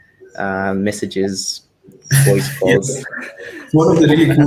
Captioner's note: both laugh